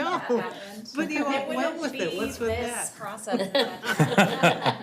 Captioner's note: all laughing